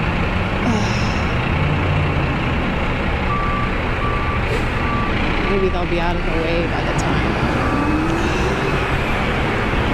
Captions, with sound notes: [sigh] maybe they'll be out of the way by the time [another sigh]